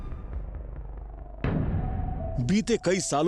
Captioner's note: narrating